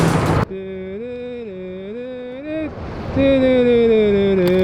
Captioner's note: humming